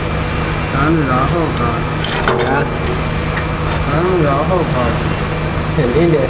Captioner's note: speaking in Mandarin